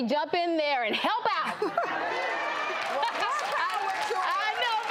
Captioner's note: audience laughs and applauds